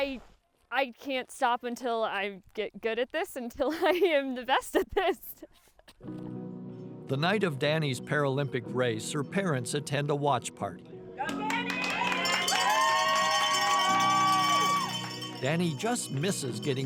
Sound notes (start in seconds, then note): 13.5 bells ringing